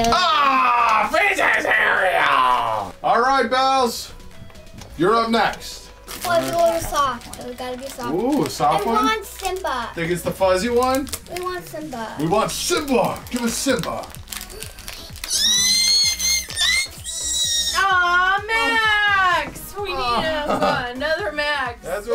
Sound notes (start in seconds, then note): 14.4 shrieks